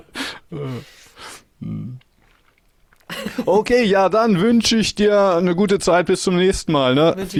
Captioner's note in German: schnauben